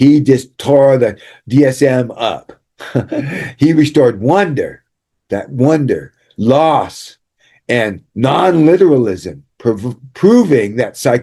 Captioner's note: laughter